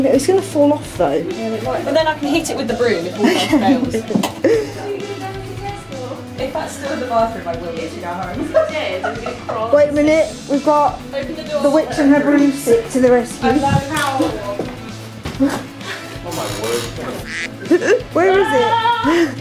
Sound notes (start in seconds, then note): 17.1 laughs; 18.4 argh!